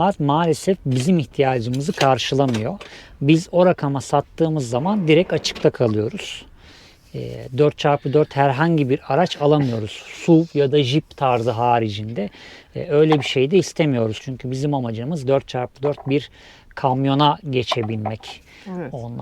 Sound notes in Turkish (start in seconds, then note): 7.1 homurdanır